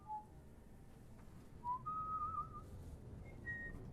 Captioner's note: whistling